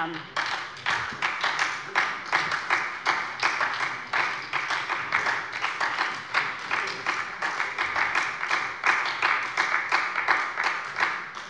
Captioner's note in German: Anhaltender Beifall bei der SPD